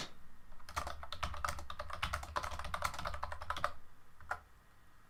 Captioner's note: keyboard clacking